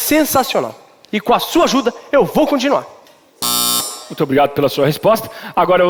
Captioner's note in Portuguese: campainha